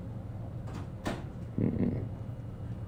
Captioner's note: door closes; groans